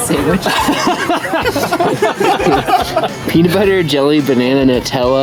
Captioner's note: laughing